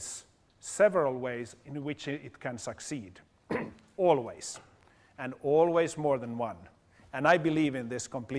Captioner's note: cough